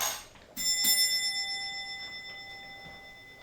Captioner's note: doorbell rings